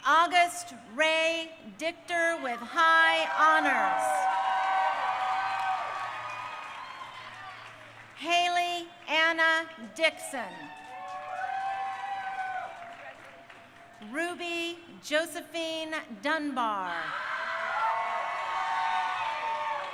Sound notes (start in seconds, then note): 3.0 crowd cheering; 10.0 crowd cheering; 17.0 crowd cheering